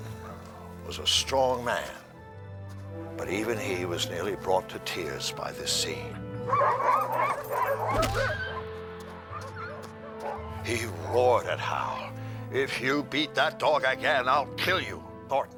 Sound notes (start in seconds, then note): 6.4 dogs barking; 6.5 whimpering